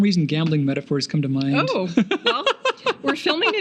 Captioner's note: laughing